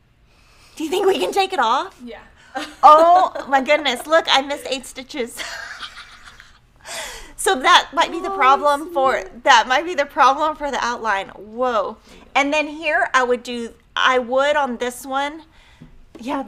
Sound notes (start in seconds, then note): 0.8 laughs; 7.5 laughs